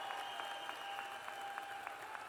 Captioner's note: applause